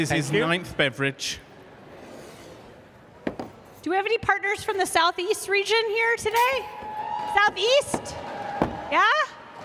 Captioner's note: cheers and applause